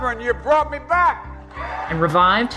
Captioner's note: cheering